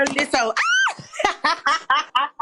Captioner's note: screams; laughing